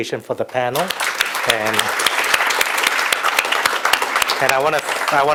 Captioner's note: audience applauds